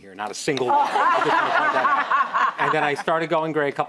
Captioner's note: laughing